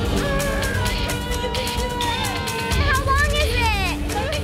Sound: screams

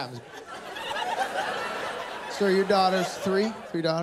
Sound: laughter

